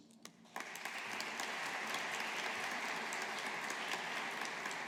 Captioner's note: audience applauding